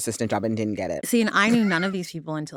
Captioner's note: laughter